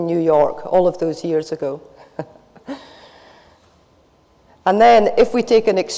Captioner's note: laughs